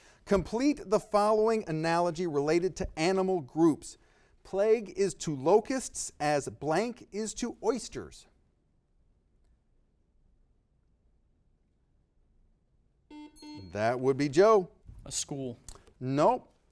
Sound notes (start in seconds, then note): 13.1 buzzer beeping